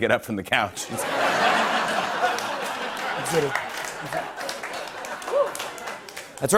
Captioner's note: laughter and applause